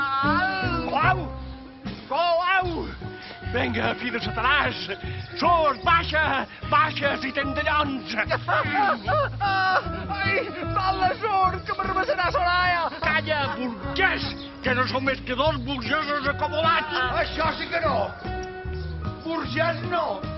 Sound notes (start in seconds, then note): 9.0 moans of pain